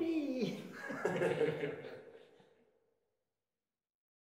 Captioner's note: laughs